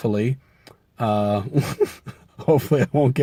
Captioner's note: laughs